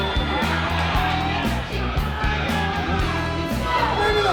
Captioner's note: crowd cheering